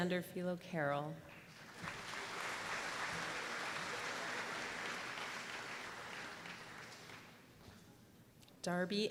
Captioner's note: applause